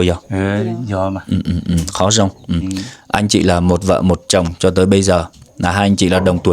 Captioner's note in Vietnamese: hắng giọng